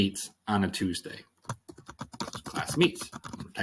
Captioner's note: typing